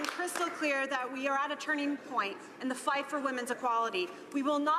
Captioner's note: some Applause